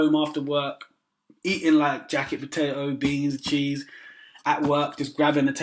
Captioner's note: mmmhhh